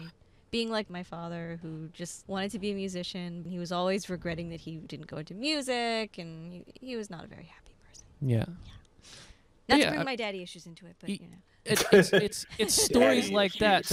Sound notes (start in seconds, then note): 8.7 whispering; 11.7 laughing